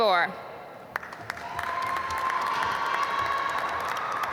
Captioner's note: applause